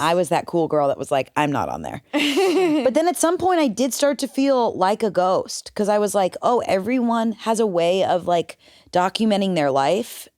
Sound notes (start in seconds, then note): 2.1 laughs